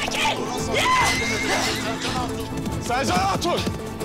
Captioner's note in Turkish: At kişniyor